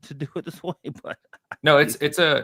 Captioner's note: laughs